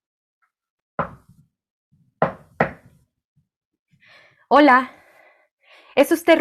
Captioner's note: knocks; speaking spanish